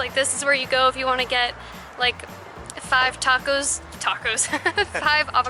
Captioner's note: laughter